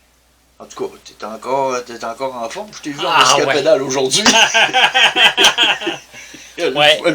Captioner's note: laughter